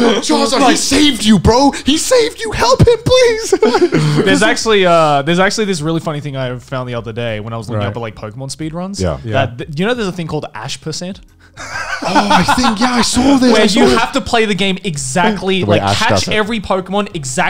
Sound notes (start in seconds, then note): 3.5 laughing softly; 11.6 laughing loudly